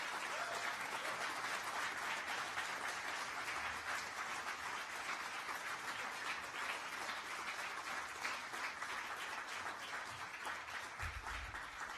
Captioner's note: applause